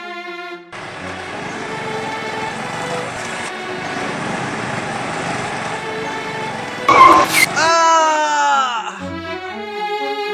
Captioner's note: applause